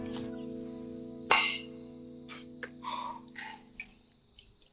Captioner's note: glasses clanking